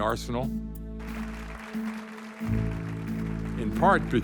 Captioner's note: applause